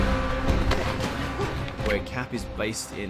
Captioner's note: grunting